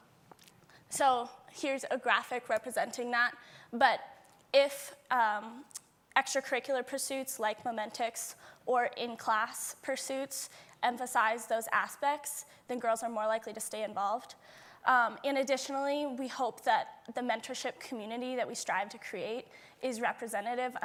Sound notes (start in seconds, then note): none